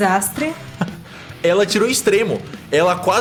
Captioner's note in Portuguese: Risada